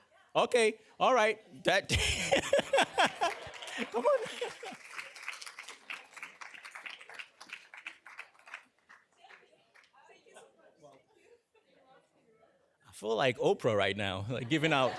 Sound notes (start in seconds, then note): 4.9 applause